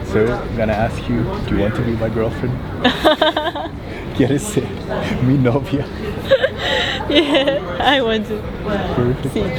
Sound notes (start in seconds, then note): 2.8 laughs